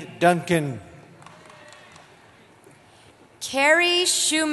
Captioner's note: applause